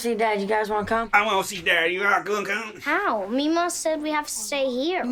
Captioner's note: exaggerated Texas accent